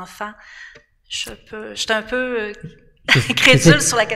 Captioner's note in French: rires